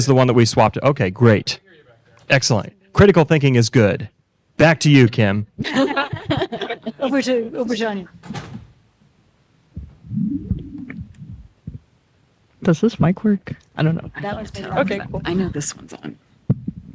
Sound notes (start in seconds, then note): 5.6 laughter